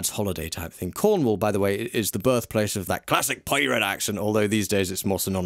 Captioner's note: mimics pirate accent